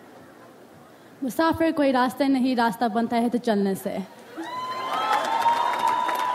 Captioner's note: speaks in foreign language; audience applauds